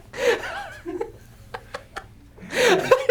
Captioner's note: laughs